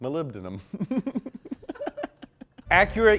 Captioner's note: giggles